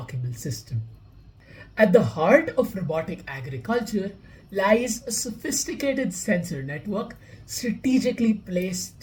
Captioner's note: voice-over